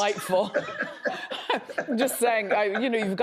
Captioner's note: laughs